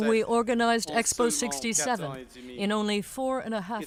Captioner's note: speaking French